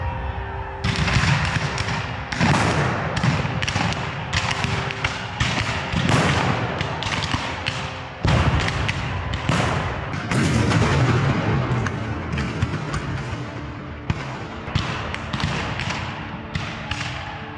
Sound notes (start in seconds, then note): 1.6 guns fire; 10.5 cannon fire; 14.0 guns fire